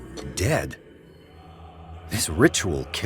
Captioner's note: none